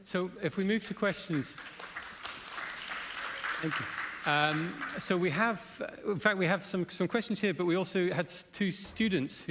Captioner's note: applause